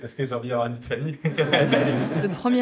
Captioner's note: audience laughs